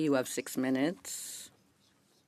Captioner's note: speaking French